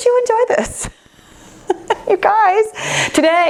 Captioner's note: laughs